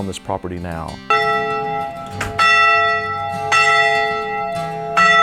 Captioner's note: church bells clanking